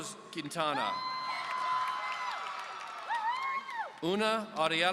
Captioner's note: audience cheering